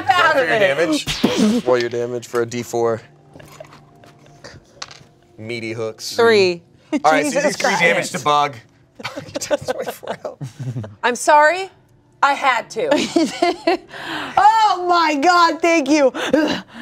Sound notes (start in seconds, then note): 12.8 laughs